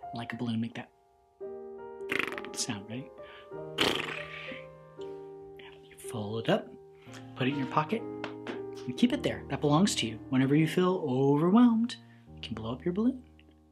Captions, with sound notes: Like a balloon make that (blowing raspberry) sound, ready? (blowing raspberry) You fold it up, put it in your pocket, and keep it there. That belongs to you. Whenever you feel overwhelmed, you can blow up your balloon